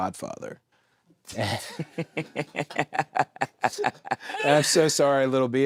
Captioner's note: both laughing